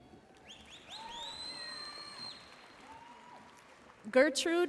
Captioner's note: audience cheering and applauding